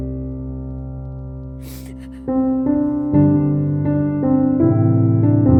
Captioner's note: Serelda sobs